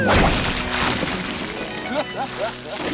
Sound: laughing

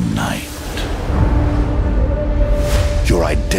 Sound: thunder rumbles

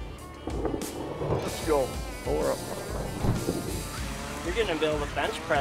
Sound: thunder

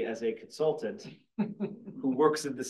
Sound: laughs

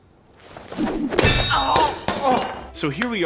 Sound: wrenching in pain

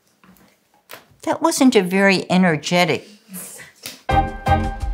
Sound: clap

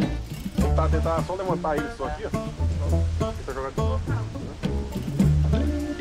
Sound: speaking in foreign language

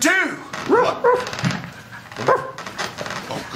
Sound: dogs barking

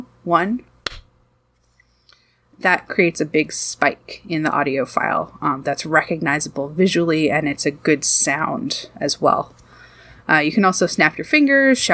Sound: clap

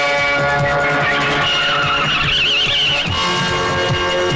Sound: tire Screeching

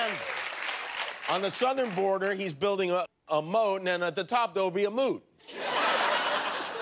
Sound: cheers and applause

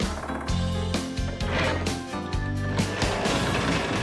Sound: rocks Clattering; crane Whirring

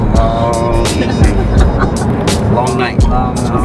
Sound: crew member laughing

